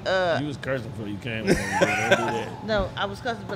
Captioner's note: laughter drowns out